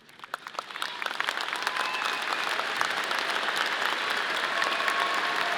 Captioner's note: audience applauding